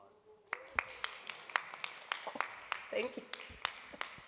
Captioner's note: applause